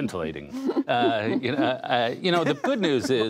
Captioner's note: laughter